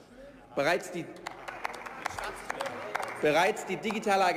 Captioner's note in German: Beifall